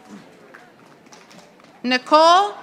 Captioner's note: audience applauding